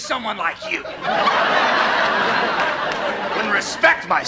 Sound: laugh track

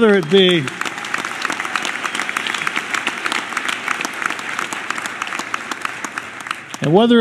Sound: applause

